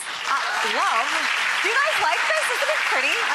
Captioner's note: audience applause